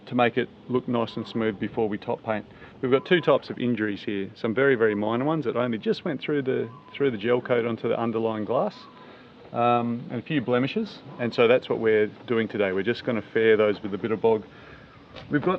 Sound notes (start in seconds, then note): none